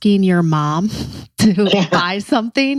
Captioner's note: laughs